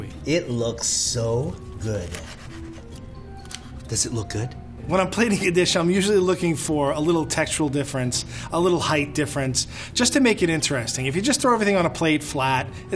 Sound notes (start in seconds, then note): 2.0 slicing steak